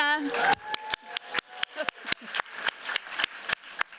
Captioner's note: applause